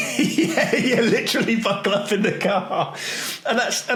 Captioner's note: laughing